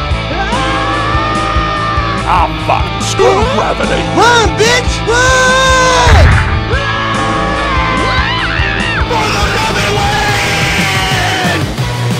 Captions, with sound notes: AHHHAHHHHHH! Ah, Fuck. Screw GRAVITY! RUN BITCH RUNNN! Ahhhhh! Wahhh! *Toad Gibberish Weird*